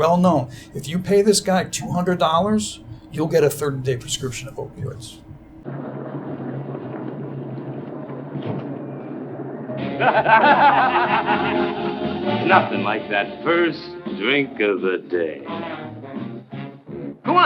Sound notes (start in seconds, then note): 9.9 men laughing; 15.3 dramatic jazz music